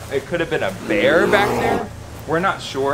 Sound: bear growling

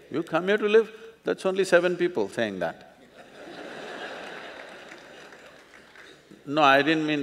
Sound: laughter

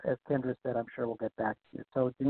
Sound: murmurs

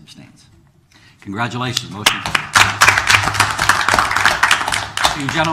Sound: applause

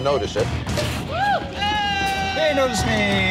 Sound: crowd cheers

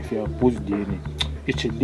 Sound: sucks Teeth

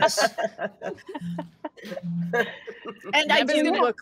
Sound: group laughing

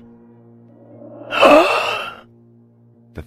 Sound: gasp

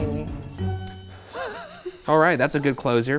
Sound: laughs

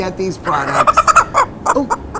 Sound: chicken clucks

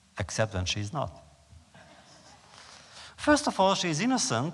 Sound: laughter

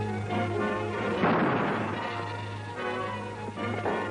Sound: gun fires

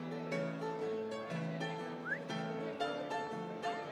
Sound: whistles

